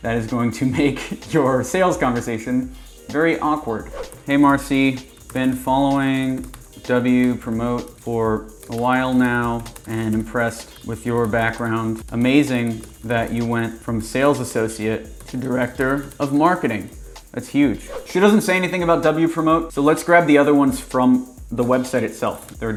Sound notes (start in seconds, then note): 0.7 laughs; 6.8 keyboard typing